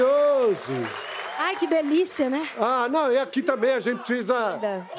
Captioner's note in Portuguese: aplausos